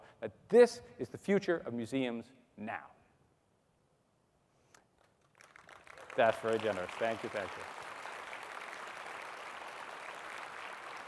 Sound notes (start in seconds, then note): 5.2 audience applauding